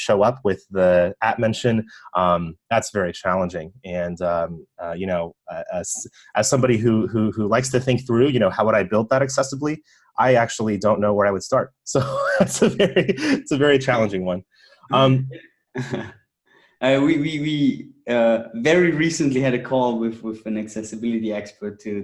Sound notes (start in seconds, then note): 11.9 chuckling